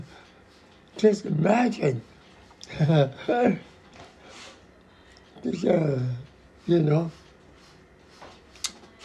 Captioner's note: <laughs>